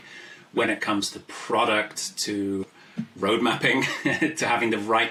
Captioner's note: laughs